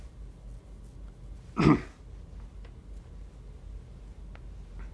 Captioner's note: clears throat